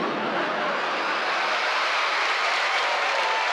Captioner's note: crowd cheering